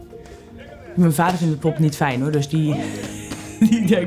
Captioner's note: laughs